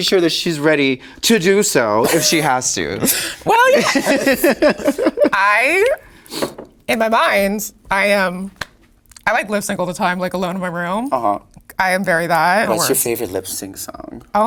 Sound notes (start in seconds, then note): 3.0 Sasha laughing